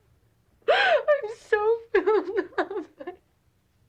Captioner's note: sobbing